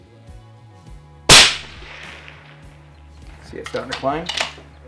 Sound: fires gun

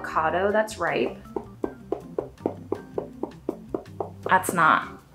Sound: woody knocking sound

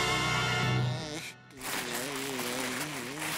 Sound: groaning

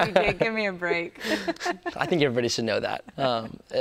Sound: both laughing

